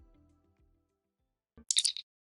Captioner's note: electronic chirp